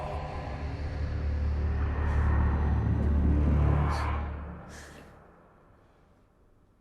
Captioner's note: ominous music; wind gusting